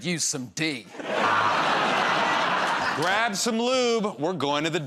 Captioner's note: laughter